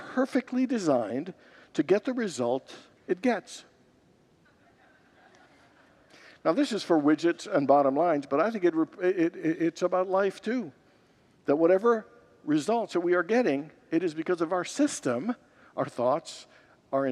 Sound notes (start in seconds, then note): 4.6 laughs